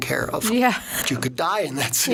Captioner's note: laughing